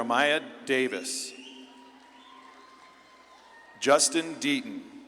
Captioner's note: audience claps and cheers